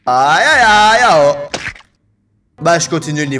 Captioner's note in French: cris de tarzan